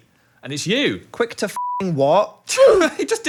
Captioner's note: beeps